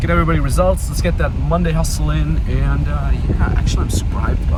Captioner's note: speaks faintly